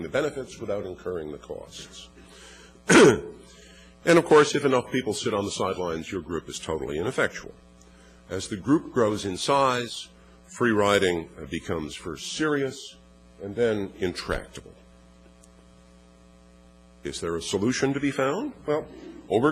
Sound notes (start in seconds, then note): 2.8 cough